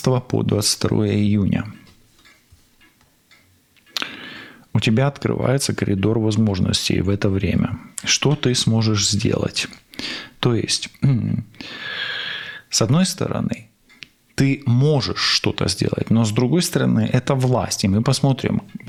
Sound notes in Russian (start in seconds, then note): 11.3 фыркает